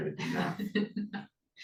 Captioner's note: laughs